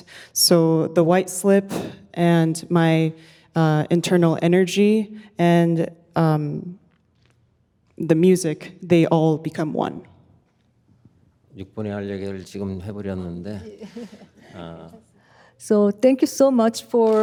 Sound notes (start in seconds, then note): 11.4 speaking in Korean